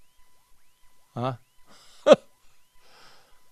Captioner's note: laughs